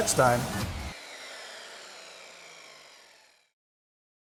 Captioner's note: saw whirring